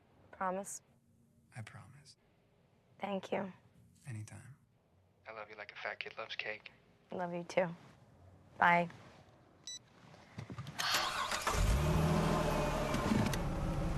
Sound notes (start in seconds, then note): 10.7 engine turns over